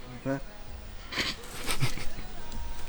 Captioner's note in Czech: Smích